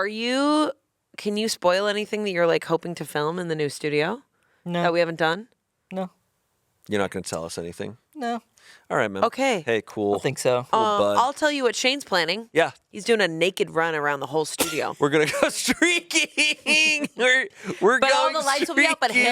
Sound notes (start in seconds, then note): 15.2 laughs